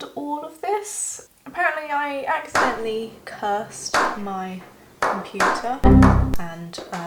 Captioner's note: slow claps